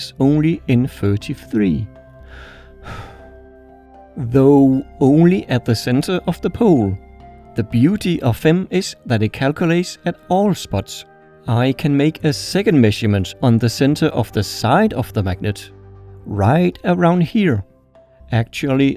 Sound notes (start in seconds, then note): 2.2 deep sigh